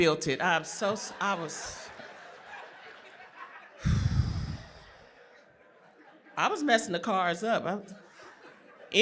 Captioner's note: laughter